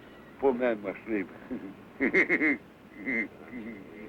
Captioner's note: laughing